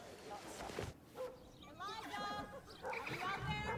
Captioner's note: dog barks